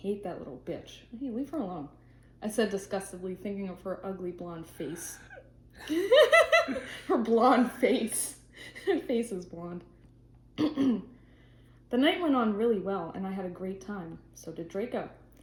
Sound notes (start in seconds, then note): 5.8 laughs